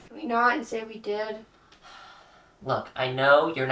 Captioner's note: exasperated sigh